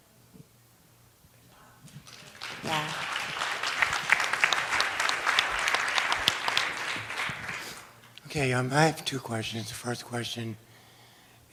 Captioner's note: applause